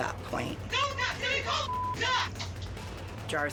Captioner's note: overlapping shouting, cursing